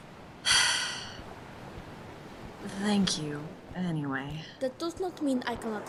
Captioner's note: sighs